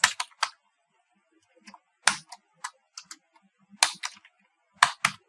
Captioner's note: typing